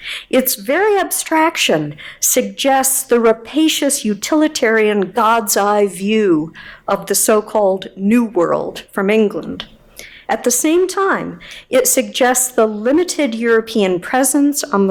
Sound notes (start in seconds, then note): none